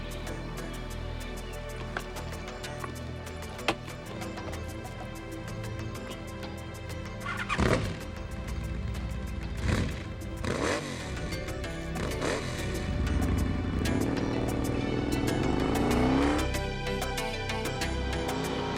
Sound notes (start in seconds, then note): 7.9 motorcycle roaring